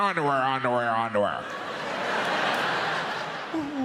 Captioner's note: audience laughs